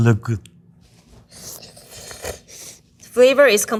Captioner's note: chefs slurping